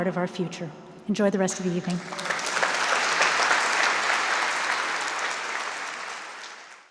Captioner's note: applause